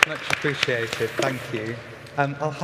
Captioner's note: applause